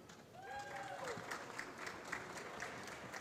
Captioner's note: applause